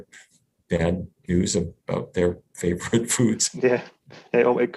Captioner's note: laughs